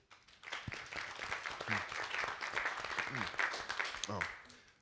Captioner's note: audience applauding